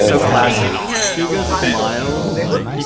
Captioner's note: cheers